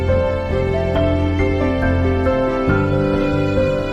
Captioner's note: none